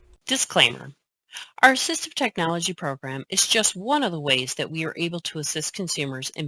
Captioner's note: voiceover